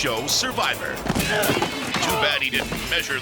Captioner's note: jumper grunts